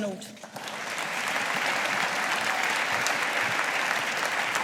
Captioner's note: audience applauding